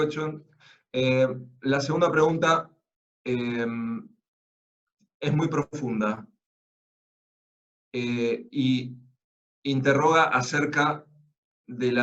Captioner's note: Spanish